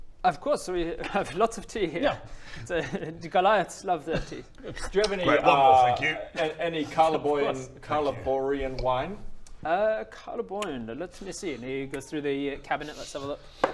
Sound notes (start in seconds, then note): 4.2 gulp